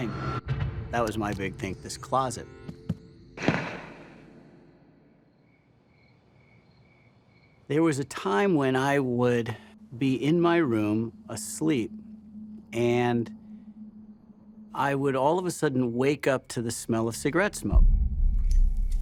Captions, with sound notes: That was my big thing, this closet. [gun shots] [crickets] There was a time when I would be in my room, asleep. And I would all of a sudden wake up to the smell of cigarette smoke.